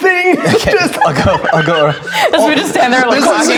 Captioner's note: players laughing; laughing